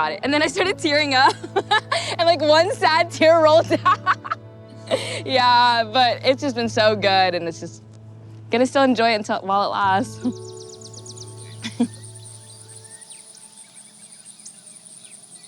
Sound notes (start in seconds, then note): 9.7 birds chirp